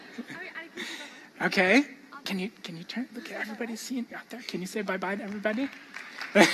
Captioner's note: laughter